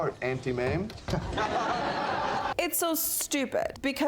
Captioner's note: audience laughs